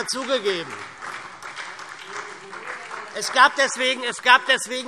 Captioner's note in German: Beifall SPD